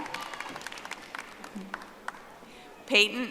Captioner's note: audience applauding